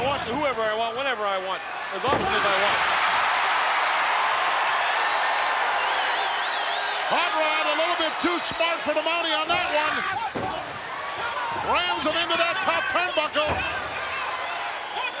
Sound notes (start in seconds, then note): 3.1 crowd cheers